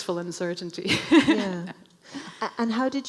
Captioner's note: laughing